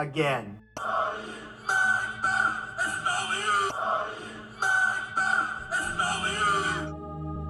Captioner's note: speaking in a foreign language